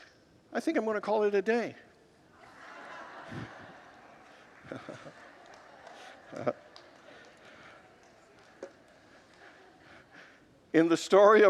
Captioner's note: congregants laugh